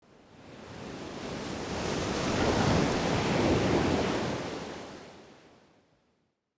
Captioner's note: waves crashing